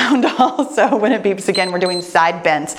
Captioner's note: timer beeps